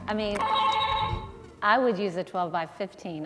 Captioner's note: buzzer ringing